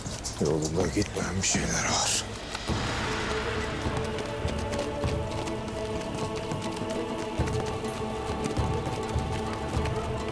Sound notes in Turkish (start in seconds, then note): 2.6 At nalı sesleri